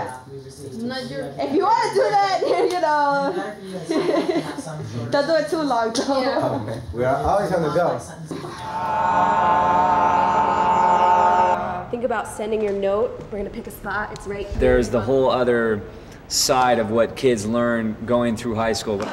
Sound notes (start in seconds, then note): 3.8 laughs